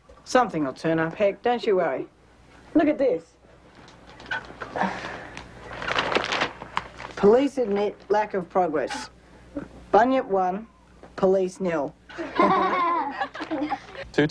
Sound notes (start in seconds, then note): 4.8 newspaper rustles; 12.1 all laugh